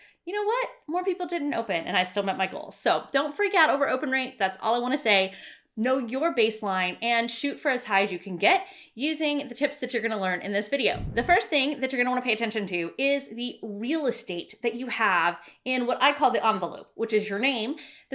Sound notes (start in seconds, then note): 10.9 swishing